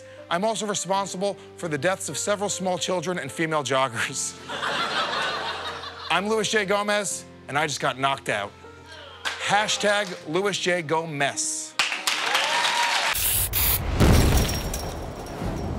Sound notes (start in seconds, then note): 4.4 laughter